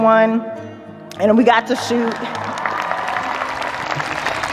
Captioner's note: audience cheers, applauds